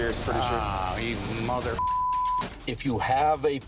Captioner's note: beep